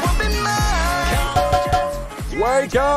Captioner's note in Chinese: 鍋子敲打聲